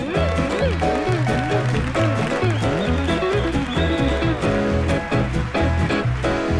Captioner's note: audience applauding; audience cheering